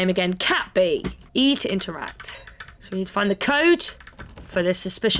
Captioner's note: beeps